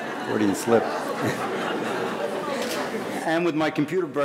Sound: laughs

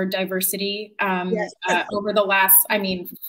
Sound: chuckles

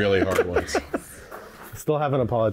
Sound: chuckling

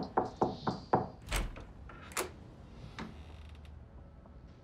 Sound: door knocking; door opening

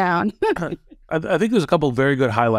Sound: laugh

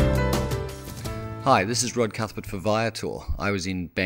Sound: voiceover

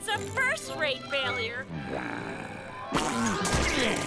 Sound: sighing

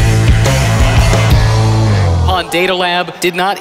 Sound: audience sighs

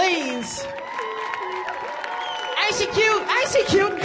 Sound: audience applauds

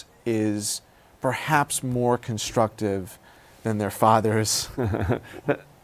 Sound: laughs

